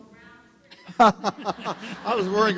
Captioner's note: laughter